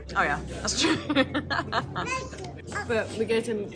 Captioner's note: laughs